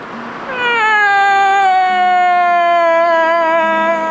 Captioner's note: Weint laut